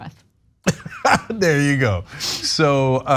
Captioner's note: laugh